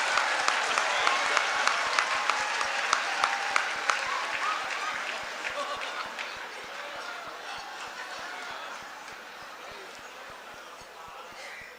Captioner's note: laughter, applause